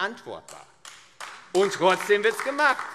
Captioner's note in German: Beifall AfD